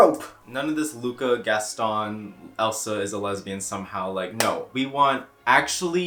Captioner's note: clap